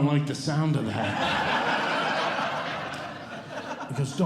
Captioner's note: audience Laughing